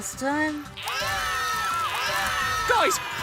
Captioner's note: screaming